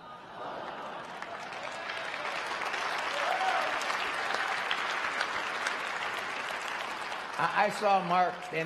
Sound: applause

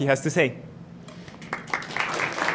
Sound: applause

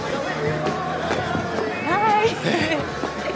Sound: laughs

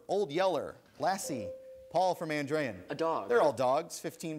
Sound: ding

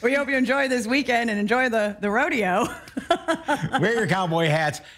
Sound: laughter

